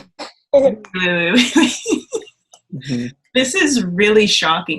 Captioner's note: laughs